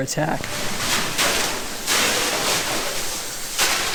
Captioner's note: water jets